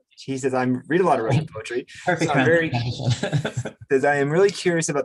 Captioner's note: laughs